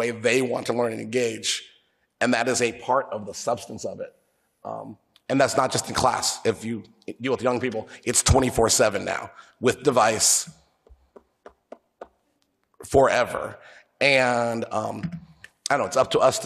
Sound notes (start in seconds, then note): 10.8 taps